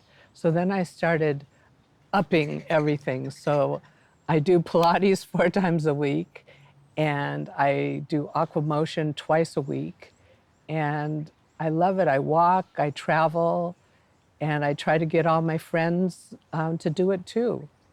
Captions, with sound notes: So then, I started upping everything. So, I do Pilates four times a week! (chuckles) And, I do aquamotion twice a week. And, I love it. I walk, I travel. And I try to get all my friends to do it, too.